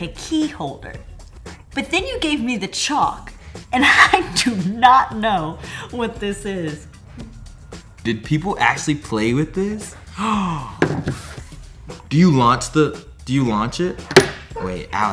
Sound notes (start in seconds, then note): 10.0 gasping; 14.2 chalk dropping